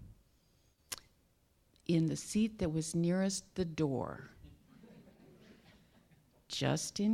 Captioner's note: audience chuckling